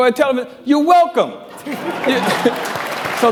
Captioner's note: applause